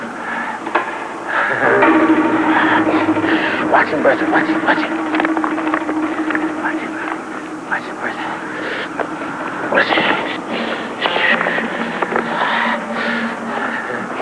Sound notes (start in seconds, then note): 0.1 panting; 5.1 whispering; 9.1 panting